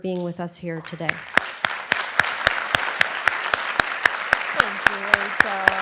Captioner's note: applause